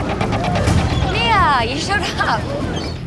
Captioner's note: laughing